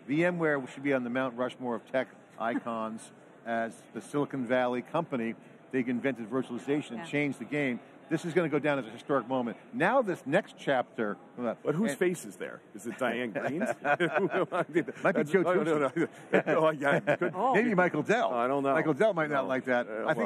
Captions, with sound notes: VMware should be on the Mount Rushmore of tech icons as the Silicon Valley company, they invented virtualization, changed the game. This is going to go down as a historic moment. Now this next chapter- >> But whose face is there? Is it Diane Greene's? (all laughing) You know what I mean. >> It might be too expensive. >> Oh, yeah. >> Oh. >> Maybe Michael Dell. >> Oh, I don't know. >> Michael Dell might not like that.